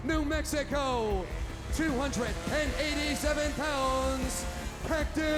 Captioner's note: chainsaw revving